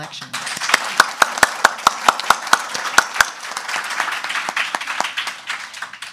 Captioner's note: audience clapping